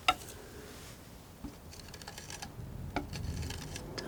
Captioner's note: tapping